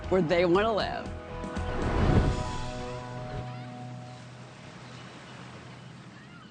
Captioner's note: gentle music; gulls cawing